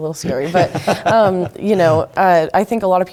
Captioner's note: laugh